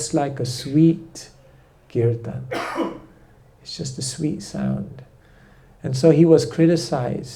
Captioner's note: coughs